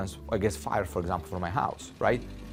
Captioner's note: engines rattling